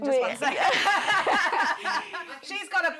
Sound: laughter

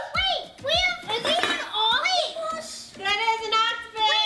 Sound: chattering together

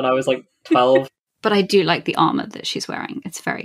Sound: laughs

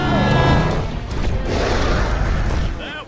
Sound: screaming; roaring

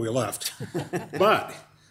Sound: group laughing

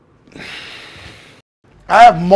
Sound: sighs

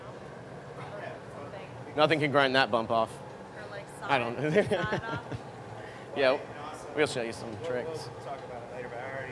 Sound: laughter

